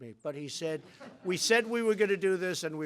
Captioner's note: laughter